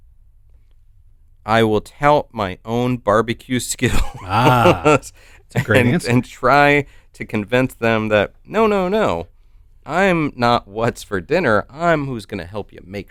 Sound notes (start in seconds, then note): 3.9 chuckles